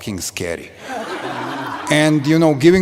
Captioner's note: laughter